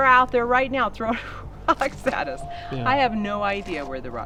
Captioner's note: laughs